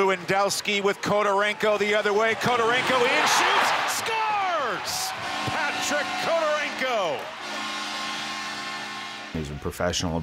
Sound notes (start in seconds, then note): 5.0 cheering; 5.0 buzzer